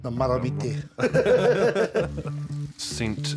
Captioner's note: both laugh